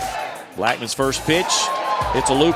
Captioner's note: voiceover